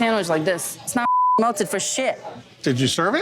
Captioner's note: beeps